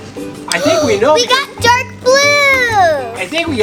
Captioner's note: gasps